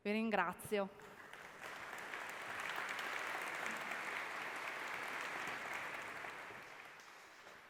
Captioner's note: applause